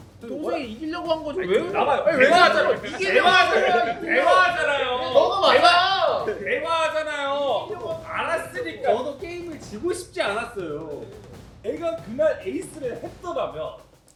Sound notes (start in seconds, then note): 1.4 heated scuffle